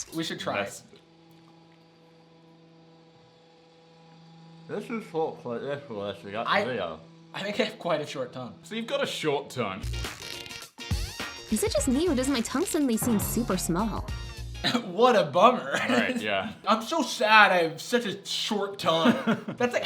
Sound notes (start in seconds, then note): 9.8 funky music; 15.8 laughs